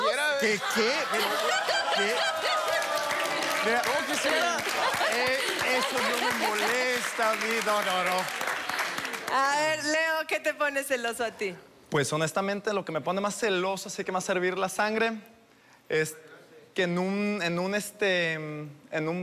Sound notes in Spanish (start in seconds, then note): 2.8 Risas; 4.7 Aplausos